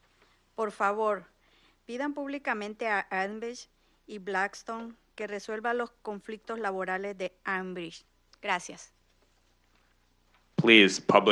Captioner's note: speaking in Spanish